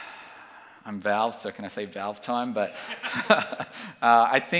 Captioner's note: laughs